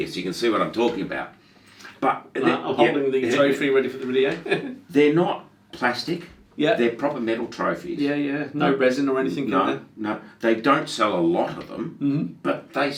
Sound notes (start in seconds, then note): 4.2 laughing